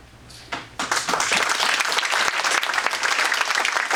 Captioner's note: audience applauding